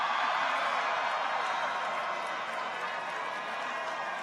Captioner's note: people cheer